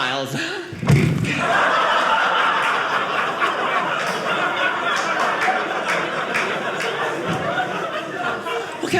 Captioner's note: audience laughing